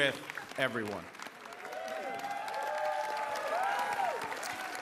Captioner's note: applause